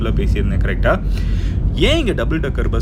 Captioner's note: sighs